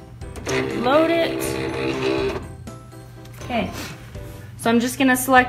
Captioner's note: printer rumbles